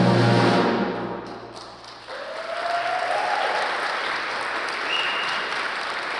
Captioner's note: applause